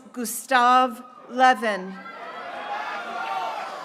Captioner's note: graduates cheering